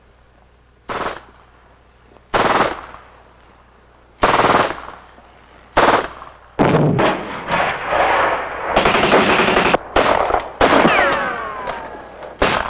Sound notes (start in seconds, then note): 6.6 explosion; 8.6 rapid gunfire